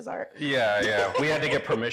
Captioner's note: laughing